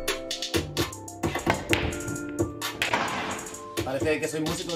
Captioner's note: crash noises